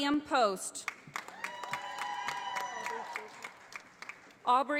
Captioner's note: audience applauding